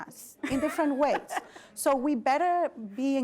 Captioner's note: laugh